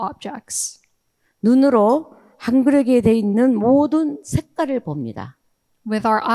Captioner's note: speaking in foreign language